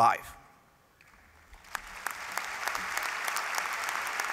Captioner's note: applause